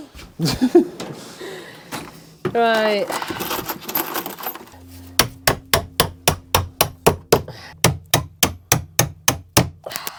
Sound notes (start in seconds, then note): 0.4 laughing; 4.7 clunking